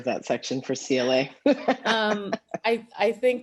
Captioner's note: laughter